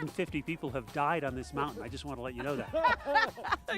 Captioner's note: laughs